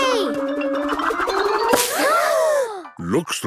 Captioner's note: all gasping